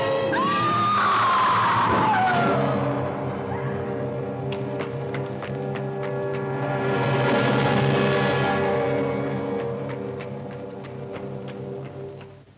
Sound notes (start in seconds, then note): 0.0 suspenseful music; 0.3 woman screams; 1.8 loud thud; 4.3 running footsteps; 6.9 suspenseful music; 9.5 running footsteps